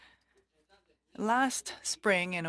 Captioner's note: speaking French